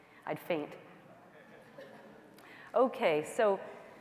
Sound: laughter

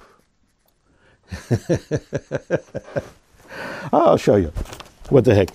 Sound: chuckling

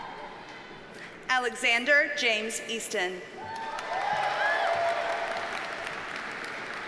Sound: audience cheers and applauds

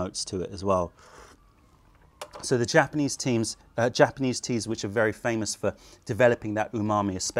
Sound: sips tea

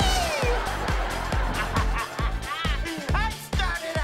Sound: laughing

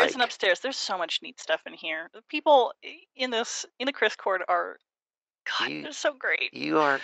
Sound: groans

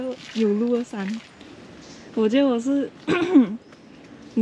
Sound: cough cough

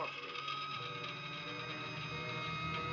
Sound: motor squealing

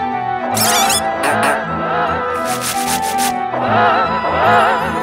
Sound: robot moving

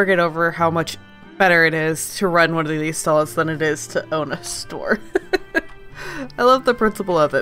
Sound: laughs

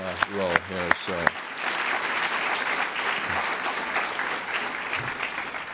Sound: applause

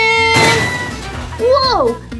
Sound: crash

